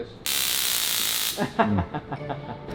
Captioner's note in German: schnarrendes Geräusch